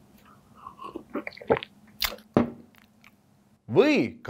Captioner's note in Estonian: võtab lonksu